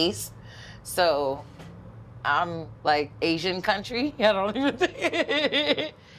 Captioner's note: laughs